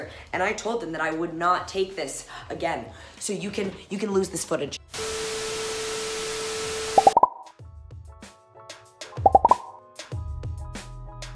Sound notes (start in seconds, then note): 4.9 television static; 7.5 bubbles popping